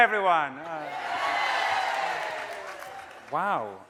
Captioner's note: audience cheering